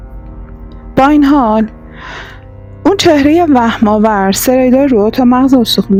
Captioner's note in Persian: صدای بند آمدن نفس